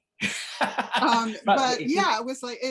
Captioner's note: laughs